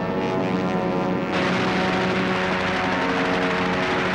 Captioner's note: gunfire